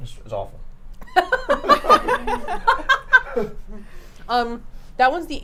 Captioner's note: laughs